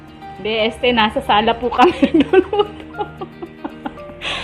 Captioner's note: laughing